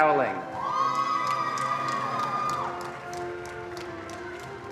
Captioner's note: attendees applauding